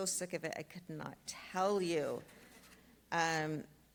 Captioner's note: speaks Spanish